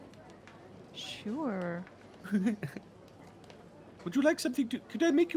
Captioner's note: Cornette laughs